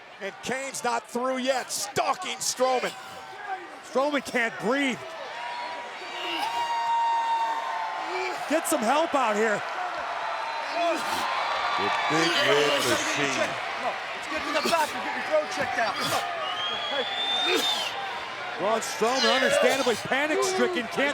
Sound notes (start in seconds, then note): 5.9 crowd cheering; 11.6 people chattering indistinctly